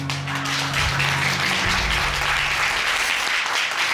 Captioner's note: audience applauds